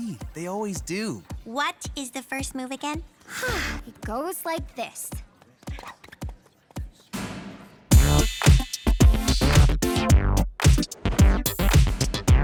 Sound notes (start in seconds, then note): 3.3 deep breath; 7.9 upbeat rhythmic music